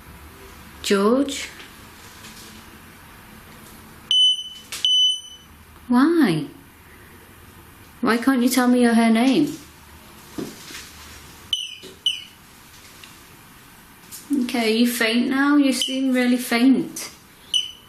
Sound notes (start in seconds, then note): 4.1 beeps twice; 11.5 beeps twice; 17.5 beep